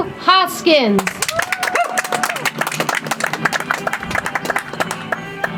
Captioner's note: audience applauds; soft music